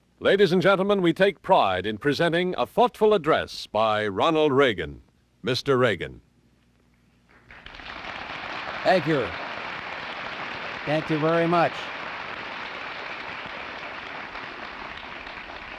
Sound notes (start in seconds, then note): 7.7 audience applauding; 12.1 audience applauding